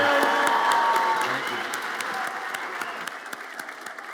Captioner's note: audience applauds